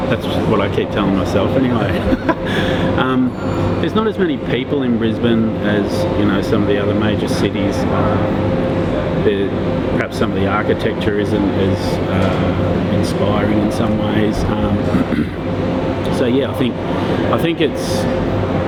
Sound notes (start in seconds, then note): 1.9 laughs